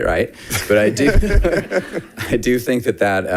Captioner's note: audience laughing